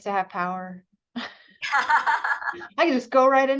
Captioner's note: laughter